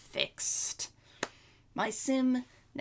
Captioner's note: clap